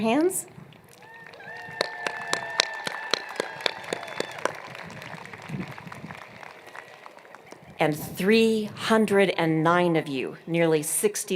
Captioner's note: applause